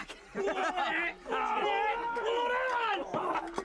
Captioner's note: men yell